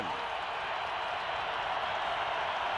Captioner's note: crowd cheering